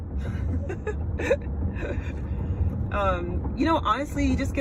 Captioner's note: laughs